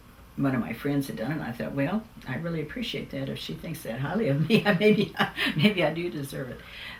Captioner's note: laughs